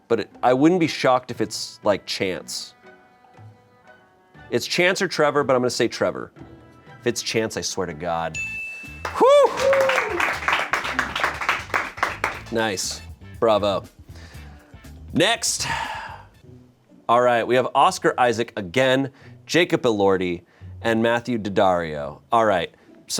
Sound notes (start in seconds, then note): 8.3 bell chimes; 9.0 crew applauds; 9.2 sighs